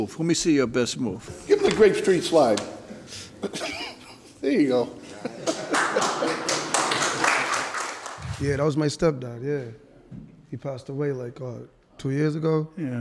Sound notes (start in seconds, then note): 5.0 laughter; 5.4 audience claps